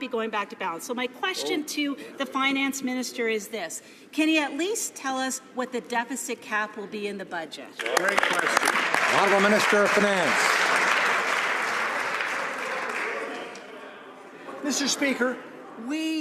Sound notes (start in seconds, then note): 10.8 some Applause